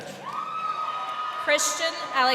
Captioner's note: crowd cheering